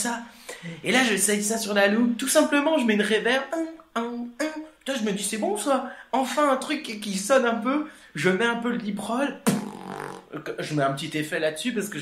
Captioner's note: liproll